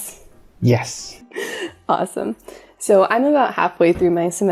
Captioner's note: giggle